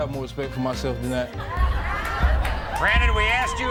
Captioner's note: audience cheers